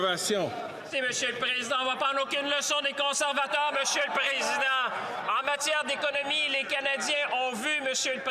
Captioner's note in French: voix de l'interprète